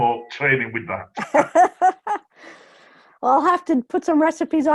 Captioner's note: laughs